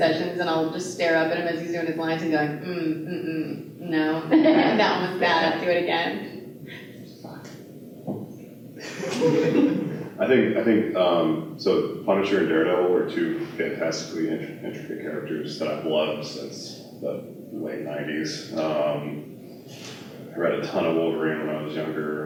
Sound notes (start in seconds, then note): 8.8 laughter